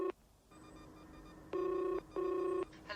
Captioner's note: telephone rings